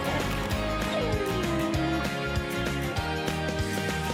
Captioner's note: pug whines